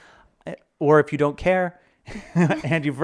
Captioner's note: chuckles